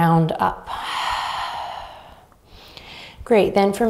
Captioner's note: exhaling deeply